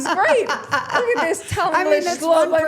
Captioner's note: laughing